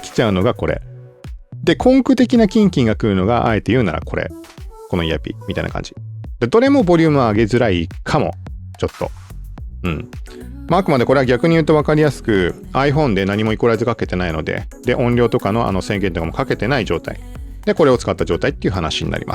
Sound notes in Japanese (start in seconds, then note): 9.8 咳払い